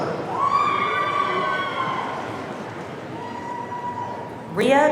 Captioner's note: audience cheering